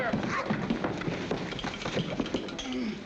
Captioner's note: Mr. WILSON GROANS